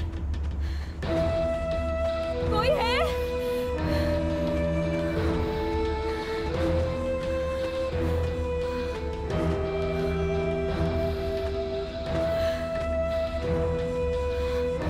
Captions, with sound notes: (Ominous theme plays) Anybody there? [Panting]